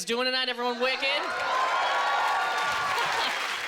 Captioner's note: cheering